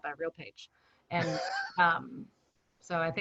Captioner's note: laughing